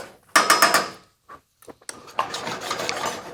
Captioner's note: pan clanking; pan rasping